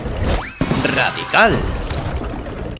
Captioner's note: bell dings